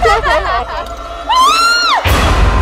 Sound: laughing; shouting

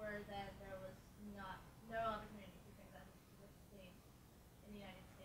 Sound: speaking faintly

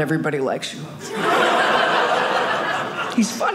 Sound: audience laughing

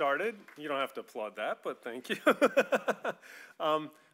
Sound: laughing

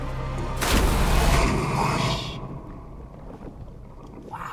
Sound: water splashes

